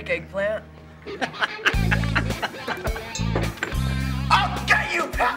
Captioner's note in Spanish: reír